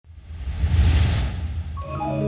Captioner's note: words whooshing; mystical chiming music